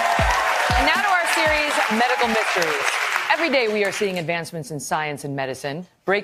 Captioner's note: applause